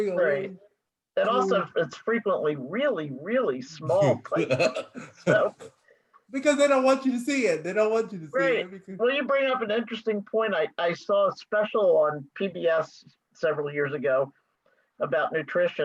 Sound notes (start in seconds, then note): 4.3 laughs